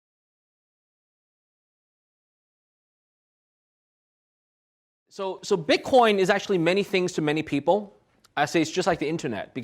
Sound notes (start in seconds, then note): 5.1 voiceover